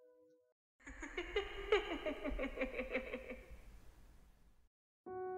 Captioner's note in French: Rire